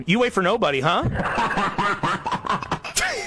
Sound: compressed maniacal laughter; confused laughter

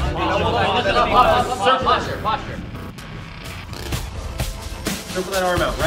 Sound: chattering

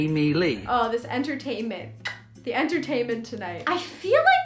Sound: kiss

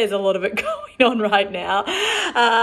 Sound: laughs

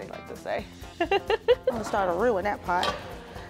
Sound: laughs

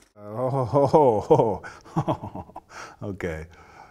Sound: chuckling

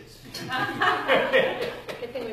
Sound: laughter

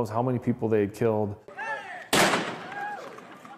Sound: gunshots; whooping and hollering

